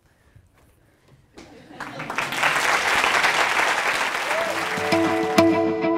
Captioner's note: laugh; applause